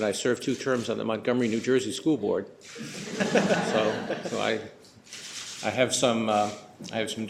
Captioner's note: laughing